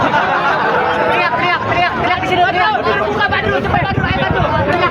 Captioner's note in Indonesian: tertawa